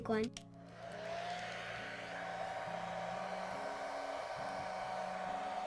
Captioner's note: hair dryer whirring